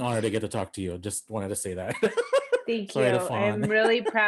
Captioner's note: chuckles